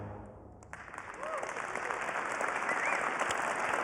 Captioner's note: applause